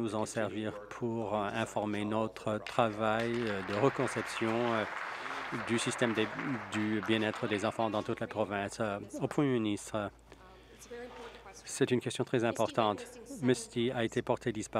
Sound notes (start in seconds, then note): 7.7 applause